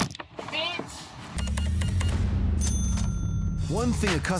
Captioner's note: cash register beeps